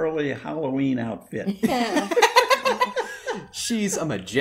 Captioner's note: laughter